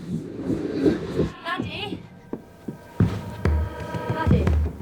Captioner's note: sounds echoing